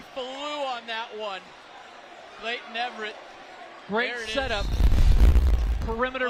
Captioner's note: applause